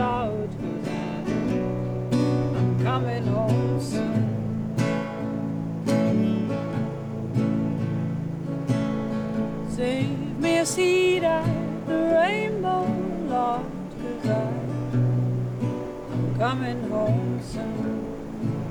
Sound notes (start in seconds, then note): 10.9 water Rushing; 11.2 cello Music